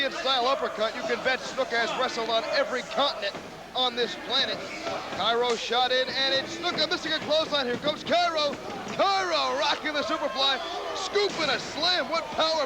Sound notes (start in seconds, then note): 6.7 crowd cheering